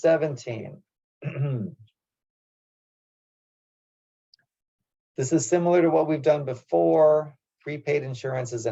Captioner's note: cough